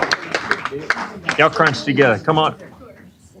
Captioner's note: applause